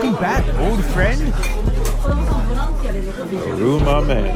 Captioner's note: patrons chattering